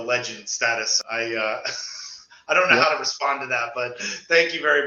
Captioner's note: laughs